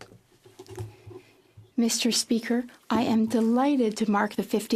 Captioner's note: speaking French